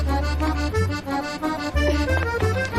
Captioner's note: straining